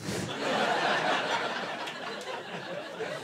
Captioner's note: laughter